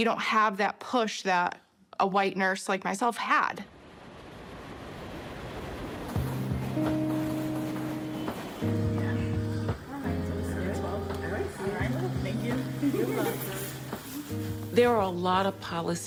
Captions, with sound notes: You don't see the, you don't have that push that a white nurse like myself had. (train clattering) - Yeah. - All right. - All right. - Thank you. - You're welcome.